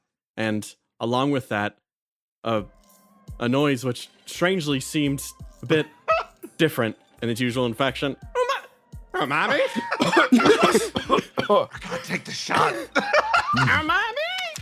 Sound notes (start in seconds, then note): 9.2 laughs; 11.6 Yaiyo, Whispering; 12.8 laugh